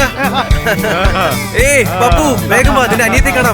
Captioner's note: laughs and screams all around